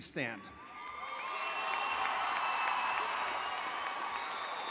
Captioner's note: audience applauding